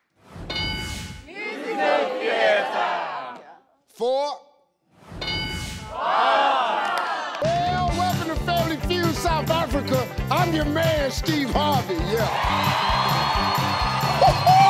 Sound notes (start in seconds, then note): 0.5 bell sound; 1.3 crowd; 5.2 bell sound; 5.9 crowd